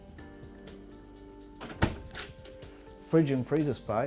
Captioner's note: door closes